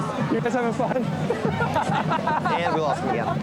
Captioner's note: laughs